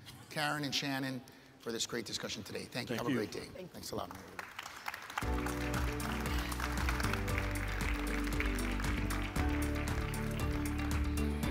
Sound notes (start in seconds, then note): 4.1 audience applauds; 5.2 upbeat music